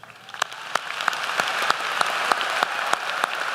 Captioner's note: applause